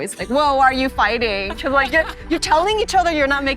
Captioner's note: laughing